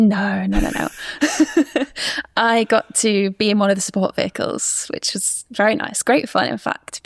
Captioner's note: laughs